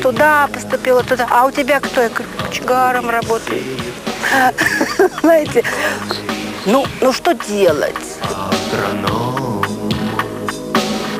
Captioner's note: laughter